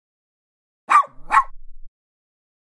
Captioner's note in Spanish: FX - Dog Bark - 01